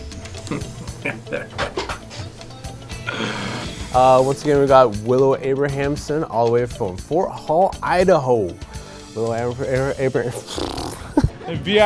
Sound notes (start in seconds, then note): 2.6 laughing; 10.4 laughing